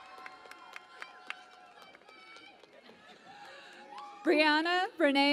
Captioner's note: cheering and Applause